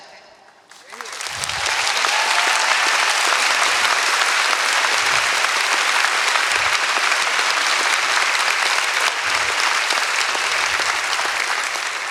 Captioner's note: applause; speaking in German